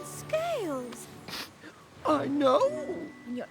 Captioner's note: sniffles